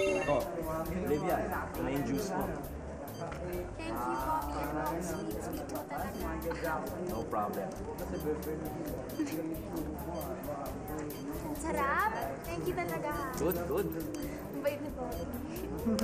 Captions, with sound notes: Olivia, here's your juice. Thank you, Bobby. You're really sweet. -No problem. -[chuckles] It tastes good. Thank you so much. -Good, good. -So nice.